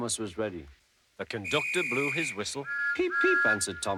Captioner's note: blows whistle